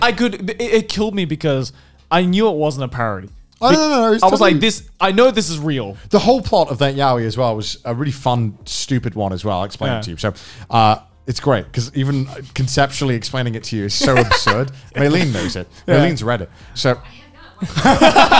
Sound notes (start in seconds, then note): 14.0 laughing